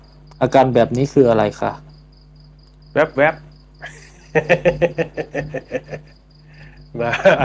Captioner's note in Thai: เสียงหัวเราะ